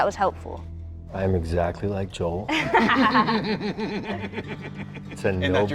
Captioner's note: all laughing